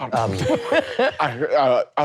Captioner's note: laughing